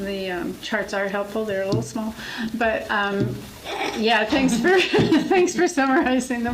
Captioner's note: laughs